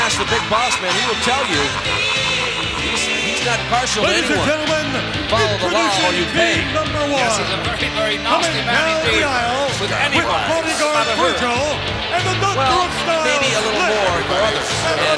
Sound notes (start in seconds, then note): 1.9 Ted chuckling; 1.9 upbeat music